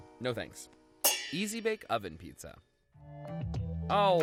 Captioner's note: metal clangs